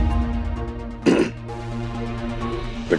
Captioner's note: clears throat